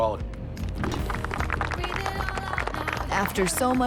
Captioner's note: crowd applauds